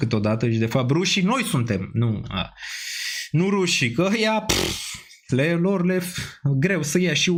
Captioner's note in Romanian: sforăit